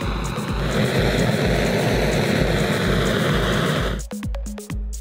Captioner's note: blow Torch Noises; scientific Experiment Music